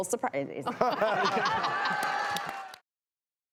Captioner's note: laughs